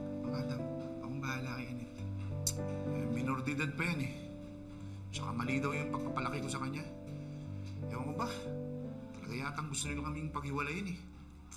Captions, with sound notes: Adam, I'll take care of Anette. [clicks tongue] She's still a minor. And they say I raised her wrong. I don't know, they really want to separate us.